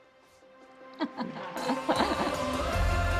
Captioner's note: laughing; calm hopeful music